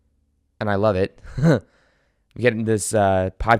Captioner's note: giggles